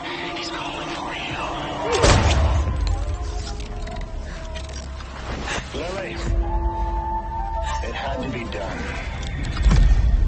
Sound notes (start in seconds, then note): 0.0 suspenseful music; 2.0 gun shot fires